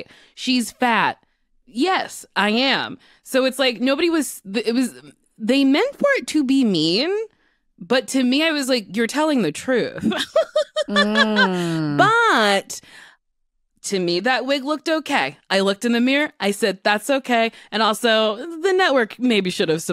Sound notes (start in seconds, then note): 10.0 laughter